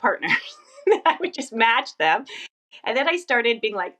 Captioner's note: laughs